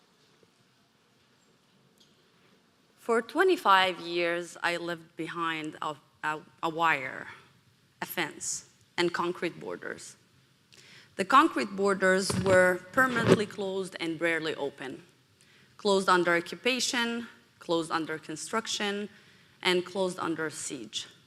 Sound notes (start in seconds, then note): none